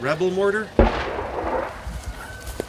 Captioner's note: explosion blasts nearby